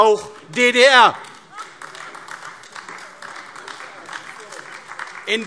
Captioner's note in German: Beifall AfD